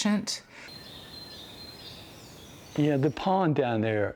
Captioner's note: birds and forest sounds